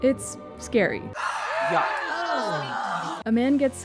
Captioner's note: people screaming